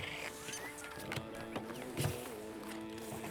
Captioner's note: RED beeps